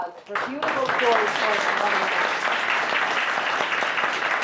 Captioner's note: applause